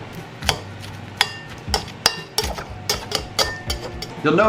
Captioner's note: metal clanging